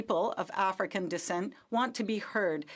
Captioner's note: speaking French